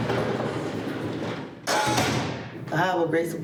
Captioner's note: door clangs shut